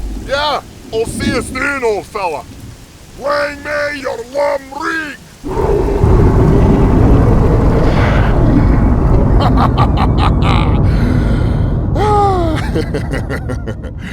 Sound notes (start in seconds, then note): 4.5 deep and loud thunderous bellowing roar; 9.1 Acoleyet laughs